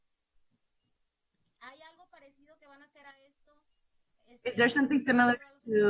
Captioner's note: speaking in Spanish